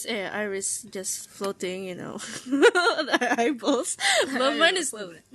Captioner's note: ahuehuehue